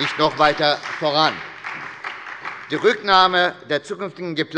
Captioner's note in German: Beifall bei der SPD